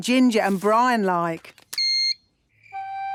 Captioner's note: beep!